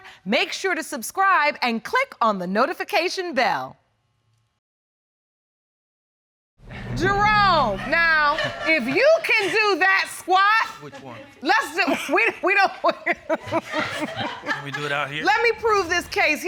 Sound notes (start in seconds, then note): 11.8 laughs